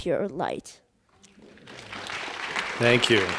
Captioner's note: applause